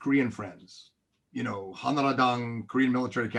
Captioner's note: speaks in foreign language